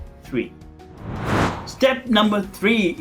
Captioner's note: air whooshing